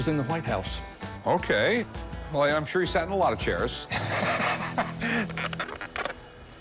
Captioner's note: laughs